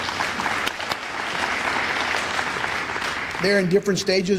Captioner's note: applause